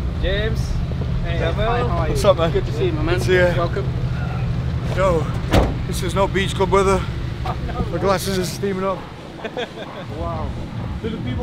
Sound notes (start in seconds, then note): 9.2 laughing